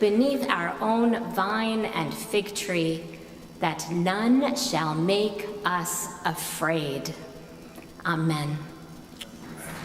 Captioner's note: none